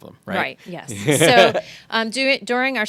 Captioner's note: laughing